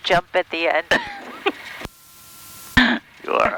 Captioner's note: laughing